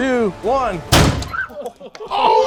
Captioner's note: air bag exploding; person screaming